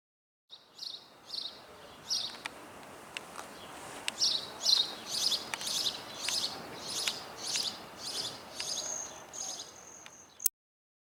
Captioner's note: Birds singing and #NatureSounds